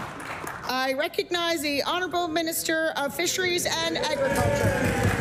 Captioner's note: applause